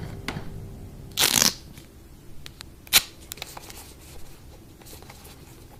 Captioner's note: sound of duct tape ripping away from the roll, and then being torn off